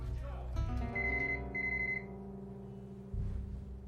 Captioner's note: telepon berdering